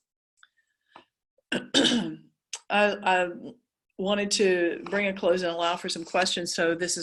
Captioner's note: cough